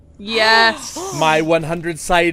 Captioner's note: gasps all around